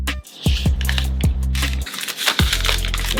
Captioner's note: ASMR sounds again